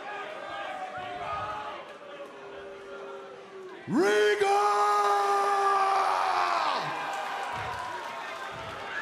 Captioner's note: cheers and boos